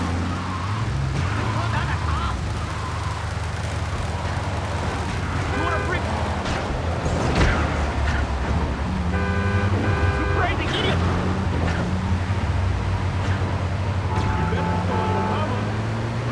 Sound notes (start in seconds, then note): 0.2 dramatic music; 6.5 horn honking